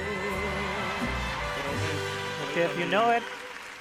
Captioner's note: audience cheering